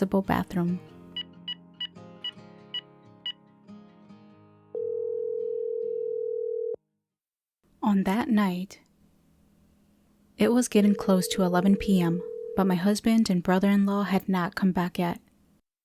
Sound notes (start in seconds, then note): 1.3 phone dialing